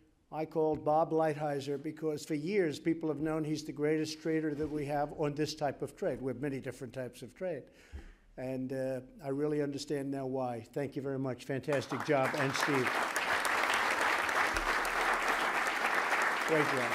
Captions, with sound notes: I called Bob Lighthizer because, for years, people have known he's the greatest trader that we have on this type of trade. We have many different types of trade. And I really understand now why. Thank you very much. Fantastic job. (Applause.) And Steve. Thank you.